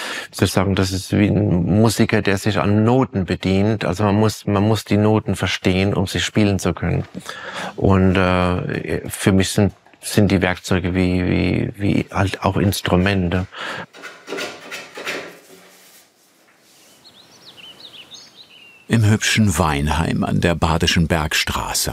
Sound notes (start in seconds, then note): 16.7 birdsong